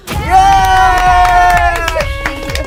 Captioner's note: group cheers; clapping; overlapping chattering